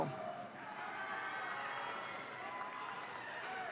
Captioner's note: audience cheering